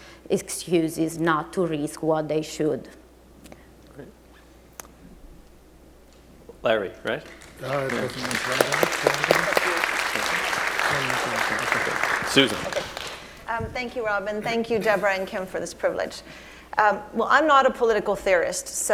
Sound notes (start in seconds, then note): 7.2 applause